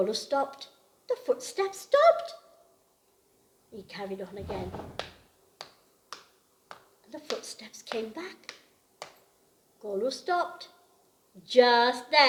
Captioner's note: taps with hands